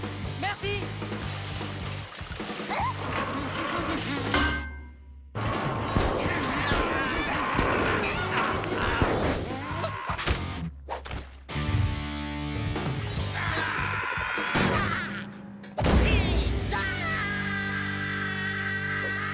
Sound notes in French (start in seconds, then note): 5.9 chantonne; 13.2 les créatures hurlent; 14.6 grognement; 17.2 long cri aigu